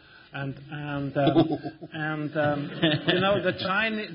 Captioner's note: laughter